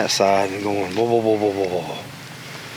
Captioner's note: mimics knocking sounds